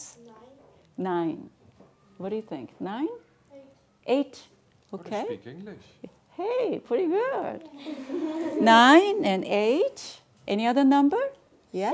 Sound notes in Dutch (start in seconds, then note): 7.8 gelach